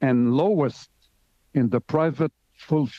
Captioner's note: speaking French